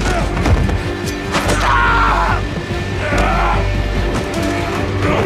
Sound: man shouts in pain

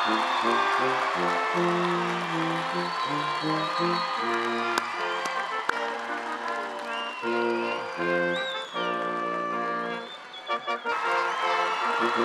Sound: attendees applauding

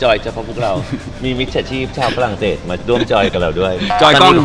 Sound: laughing

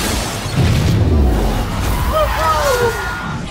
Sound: boom

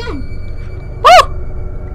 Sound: shouts

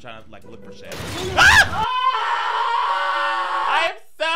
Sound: screaming

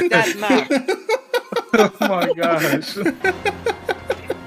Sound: laughing

